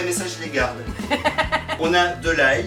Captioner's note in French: rires